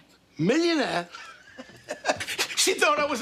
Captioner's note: laughing